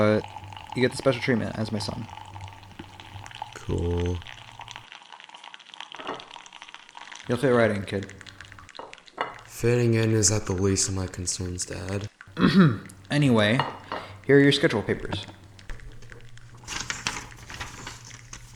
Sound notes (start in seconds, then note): 12.3 Mister Demi clears his throat